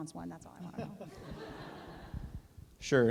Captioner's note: laughter